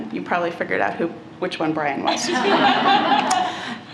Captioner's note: laughter